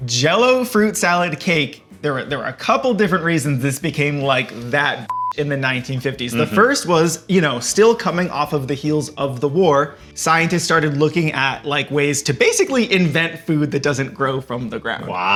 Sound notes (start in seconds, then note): 5.0 beep